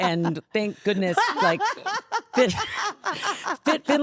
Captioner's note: Stephanie laughing hysterically